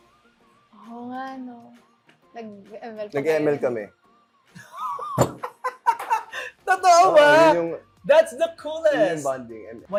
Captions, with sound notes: Oh yeah. - We played Mobile Legends. - We played ML. [LAUGHING] - Is that true? - Yes. - That's the coolest! - That's how we bonded.